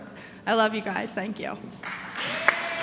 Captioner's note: applause